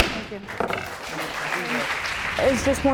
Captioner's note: audience clapping